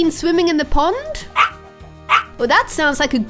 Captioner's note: Dexter barking